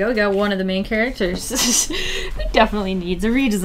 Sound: laughs

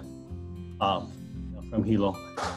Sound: in Hawaiian language

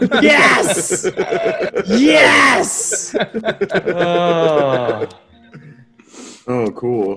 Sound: laugh

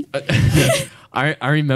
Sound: laughs

